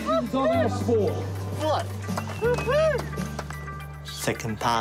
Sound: applause

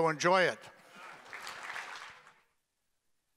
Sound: applause

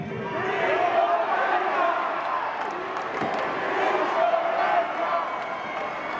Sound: chanting

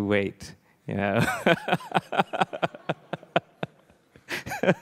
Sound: laughs

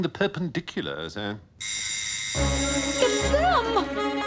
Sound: doorbell

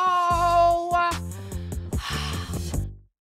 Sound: sighs

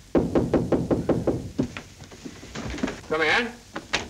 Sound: knocking on door

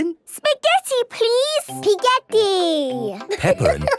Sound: laughing

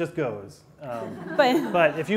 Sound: class laughing

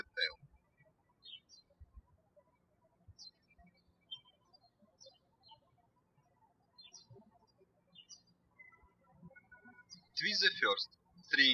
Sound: birds chirping

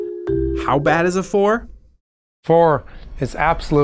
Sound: voiceover

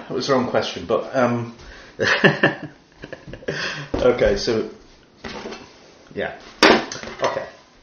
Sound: laughs

